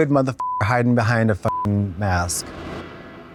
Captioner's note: beep